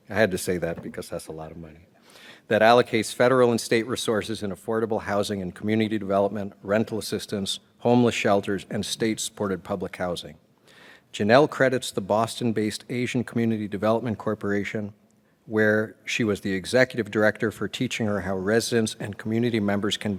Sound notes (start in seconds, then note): none